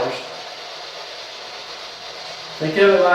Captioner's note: white Noise